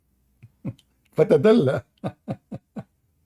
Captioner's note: Ketawa